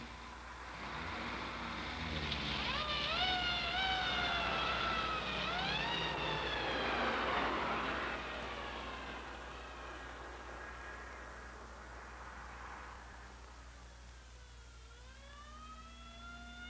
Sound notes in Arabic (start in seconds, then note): 2.4 صفارة الإنذار تصرخ